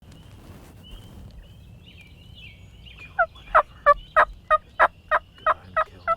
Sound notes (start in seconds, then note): 0.0 birds chirping; 3.3 turkey yelping